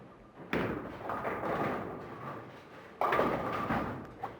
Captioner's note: pins crashing